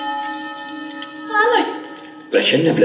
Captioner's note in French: voix étrangère